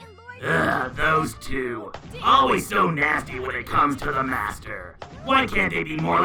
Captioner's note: sighs